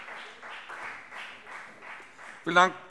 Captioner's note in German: Beifall CDU und BÜNDNIS 90/DIE GRÜNEN